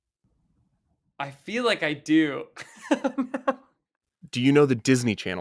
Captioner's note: laughs